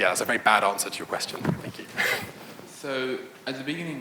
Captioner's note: laughs